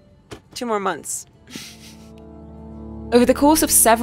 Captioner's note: chuckles